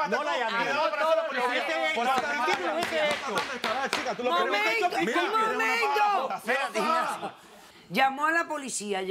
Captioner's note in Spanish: Hablan al unísono